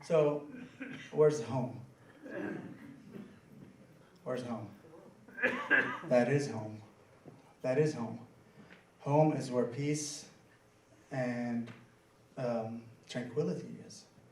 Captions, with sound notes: So, where's home? (crowd murmuring) Where's home? That is home. That is home. Home is where peace and tranquility is, yes?